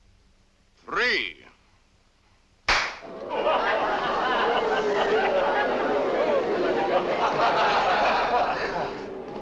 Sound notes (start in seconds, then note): 2.6 clap; 3.1 laughter